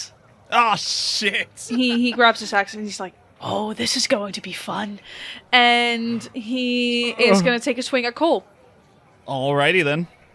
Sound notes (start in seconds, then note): 1.6 laughs; 5.0 groans